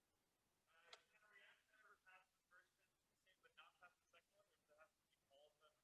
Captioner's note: student speaking faintly